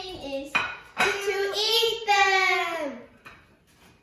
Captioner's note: in Unison